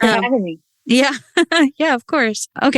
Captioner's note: laughs